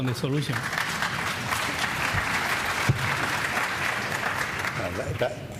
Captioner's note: applause